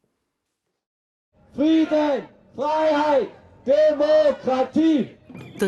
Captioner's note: shouting